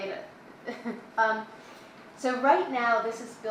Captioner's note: laughs